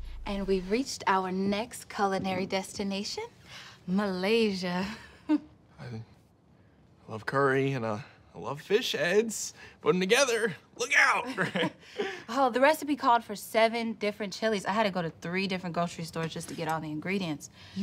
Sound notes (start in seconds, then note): 4.6 chuckles; 11.2 both laugh